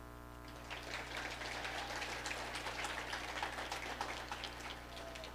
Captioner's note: audience applauding